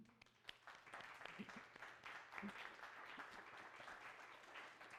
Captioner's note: audience applauding